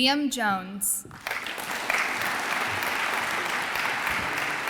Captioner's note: audience applauds